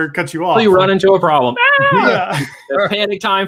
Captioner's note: screams